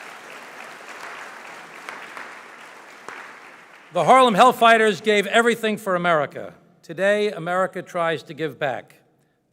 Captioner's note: applause